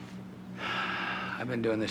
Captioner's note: sighs